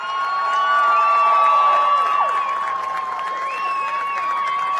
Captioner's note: cheers and applause